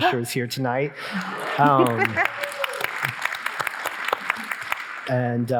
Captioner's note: audience applauding